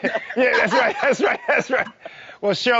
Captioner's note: laughing